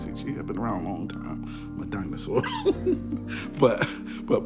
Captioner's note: laughing